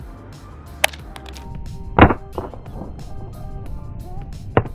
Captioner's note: phone clatters